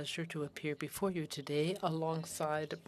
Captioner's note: speaking french